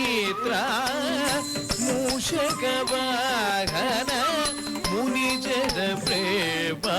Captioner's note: crying